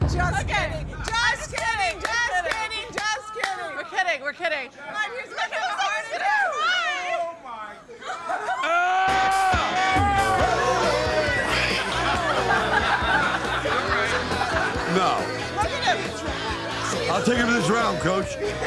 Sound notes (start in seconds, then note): 8.6 Sly shouting; 9.2 upbeat rock music; 18.5 party guests laughing